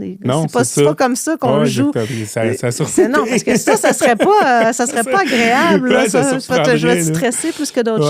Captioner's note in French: rires